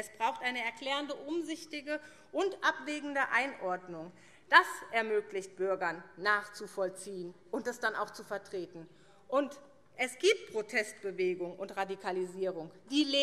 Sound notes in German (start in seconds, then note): none